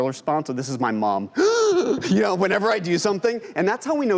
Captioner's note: loud gasping